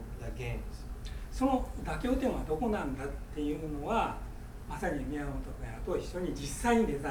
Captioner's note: speaking in foreign language